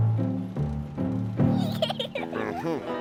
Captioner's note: giggling